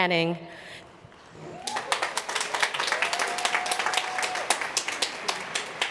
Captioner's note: applause